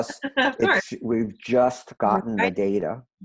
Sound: laughs

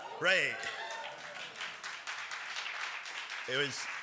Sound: applause

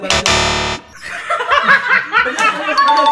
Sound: laugh

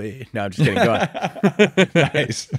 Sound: laughing

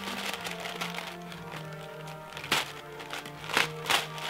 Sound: tissue paper crunching

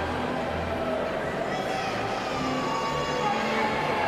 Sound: cheers and applause

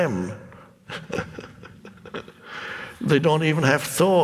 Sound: laughs

